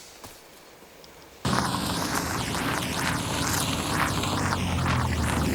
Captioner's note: car engine revving